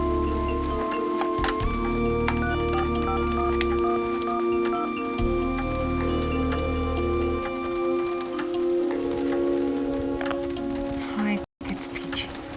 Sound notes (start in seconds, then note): 2.5 dialing; 6.0 ringing